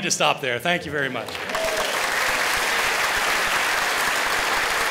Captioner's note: applause